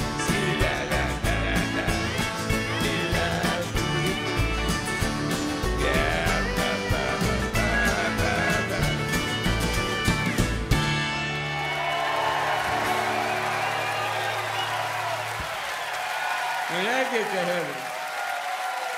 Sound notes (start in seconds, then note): 11.0 audience cheering